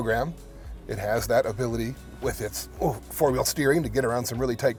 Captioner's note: groaning